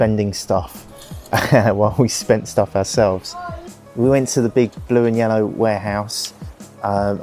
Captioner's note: laughs